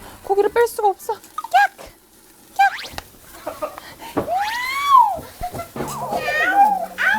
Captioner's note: this is the sound of grilling meat